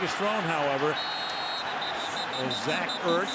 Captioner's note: whistle